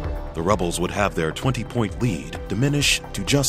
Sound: voiceover

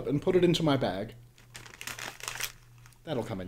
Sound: paper crinkling

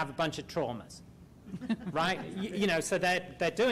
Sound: laughter

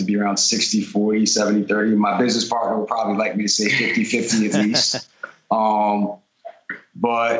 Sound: laughter

